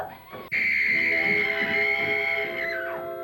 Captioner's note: screaming